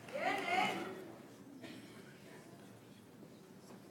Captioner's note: audience applauds